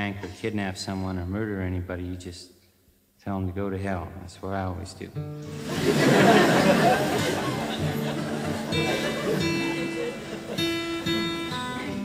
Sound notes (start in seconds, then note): 5.5 audience laughs; 8.7 gentle guitar music